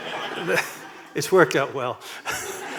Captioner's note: laughter